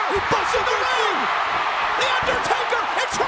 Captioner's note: overlapping chatter; crowd cheering